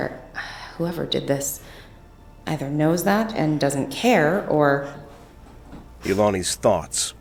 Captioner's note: footsteps creaking above